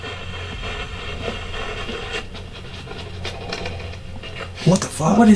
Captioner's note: radio static hissing